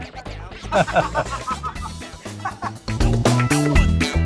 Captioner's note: laughter